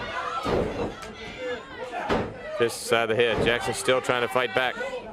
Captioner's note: crowd chatter